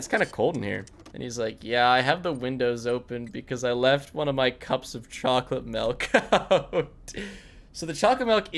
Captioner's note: laughs